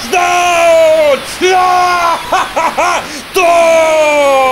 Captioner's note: rejoices out loud